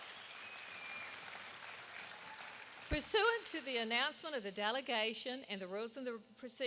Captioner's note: applause